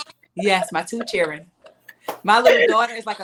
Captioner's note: laughing